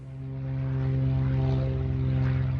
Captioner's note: airplanes